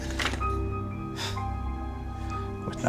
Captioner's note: scoffs